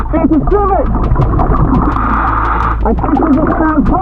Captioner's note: oxygen bubbling in water; oxygen tank hissing